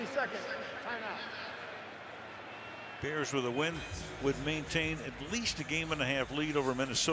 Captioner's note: none